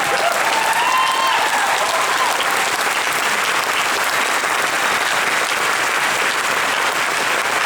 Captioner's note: audience Applauds